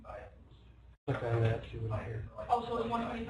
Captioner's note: student talking amongst themselves